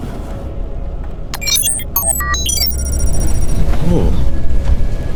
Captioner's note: system beeping